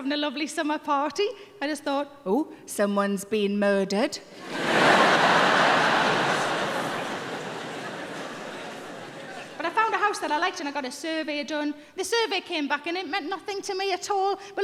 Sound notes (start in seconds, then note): 4.4 audience laughing